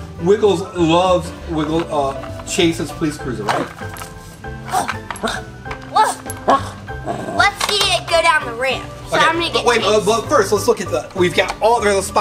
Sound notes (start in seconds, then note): 4.7 Wiggles barking; 5.9 Assistant barking playfully